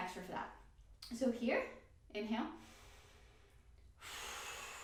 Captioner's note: inhale